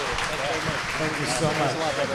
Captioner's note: audience cheering